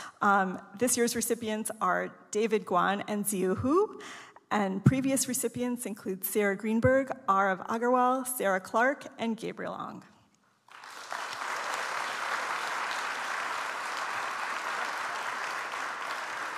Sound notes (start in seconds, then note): 10.6 audience applauds